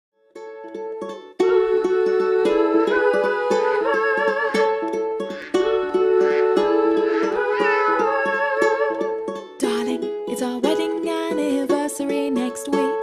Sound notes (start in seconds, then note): 7.0 cat miaows